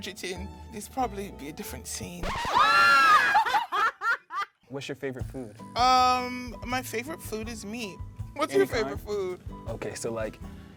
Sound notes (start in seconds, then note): 2.2 record scratch; 2.3 laughing